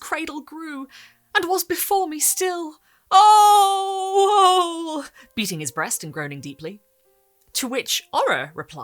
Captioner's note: beating his breast and groaning deeply